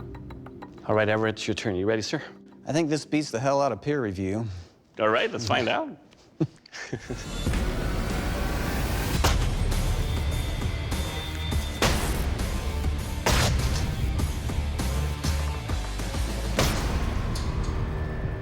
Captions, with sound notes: All right, Everett, it's your turn. You ready, sir? I think this beats the hell out of peer review. All right, let's find out. [laughs] [rock music] [blade impacts]